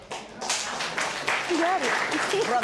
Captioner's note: applause